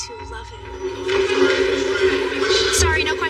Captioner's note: people e chatteringng